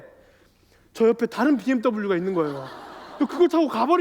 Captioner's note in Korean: 웃음